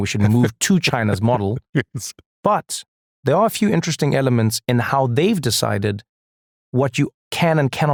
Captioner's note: laugh